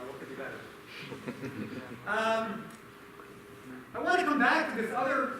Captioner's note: laughter